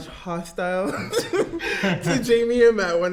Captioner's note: laughs